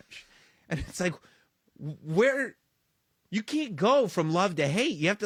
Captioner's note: laugh